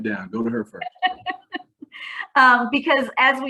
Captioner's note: laughing